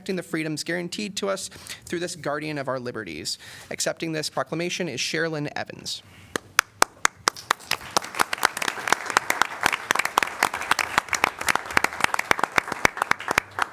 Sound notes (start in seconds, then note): 6.7 applause